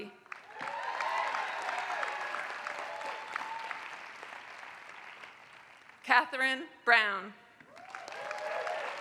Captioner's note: applause